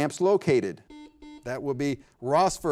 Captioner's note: double beep